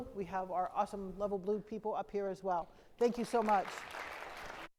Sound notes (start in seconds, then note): 3.2 crowd applauds